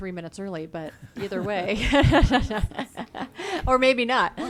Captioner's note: laughs